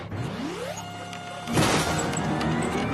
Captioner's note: ship powers up